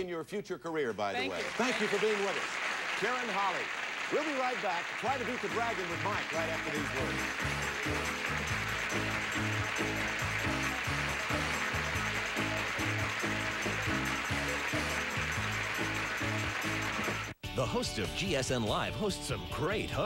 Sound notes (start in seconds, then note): 3.5 audience applauding; 8.1 audience applauding